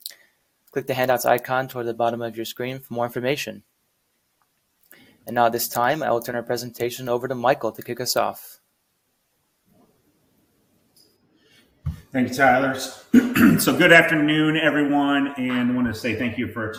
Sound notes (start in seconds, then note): 13.1 clears throat